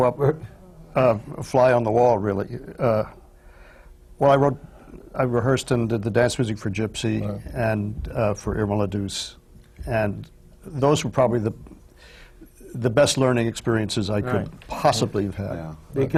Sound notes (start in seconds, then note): none